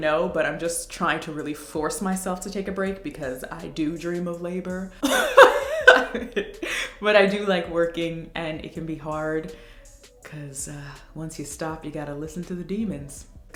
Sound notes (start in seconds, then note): 5.0 laughs